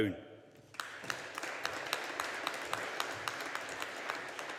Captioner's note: audience applauding